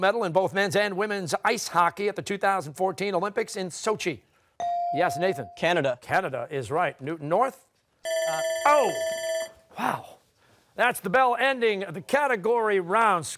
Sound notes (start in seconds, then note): 8.0 alarm sounds